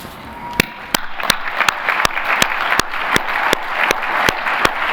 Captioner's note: applause